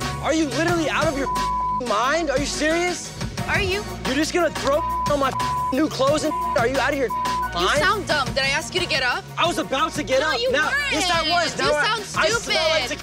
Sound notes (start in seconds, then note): 0.0 dramatic music; 1.1 beep; 4.7 beep